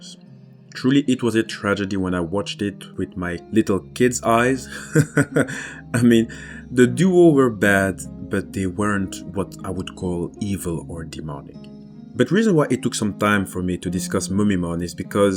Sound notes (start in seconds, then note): 4.6 laughs